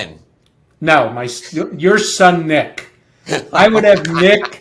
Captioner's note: laughs